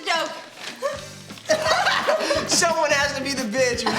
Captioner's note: laugh